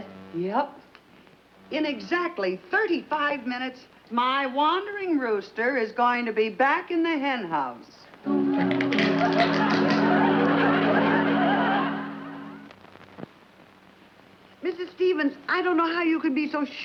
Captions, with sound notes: - Yep. In exactly 35 minutes, my wandering rooster is going to be back in the henhouse. (walnuts cracking) (audience laughs) - Mrs. Stephens, I don't know how you could be so sure